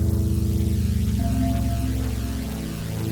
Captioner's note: bell chimes